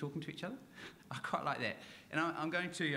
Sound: chuckles

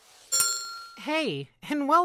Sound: bell dings

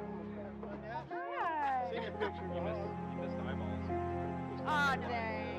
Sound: melancholy music; people talking in background

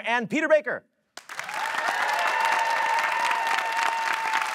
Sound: audience cheers

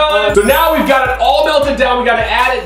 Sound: magic chimes

